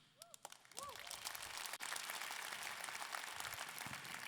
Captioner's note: audience clapping